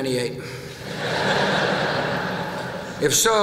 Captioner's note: laughter